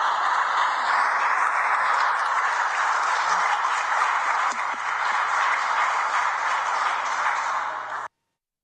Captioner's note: cheers and applause